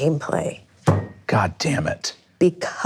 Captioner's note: fist thumps